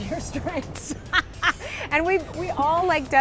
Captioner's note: laughing